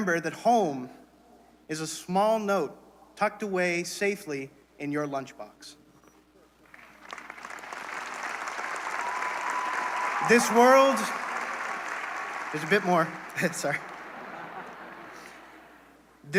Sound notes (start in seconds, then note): 6.7 applause; 13.6 laughter